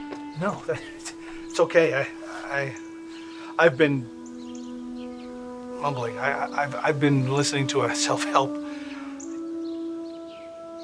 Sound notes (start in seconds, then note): 2.1 stammering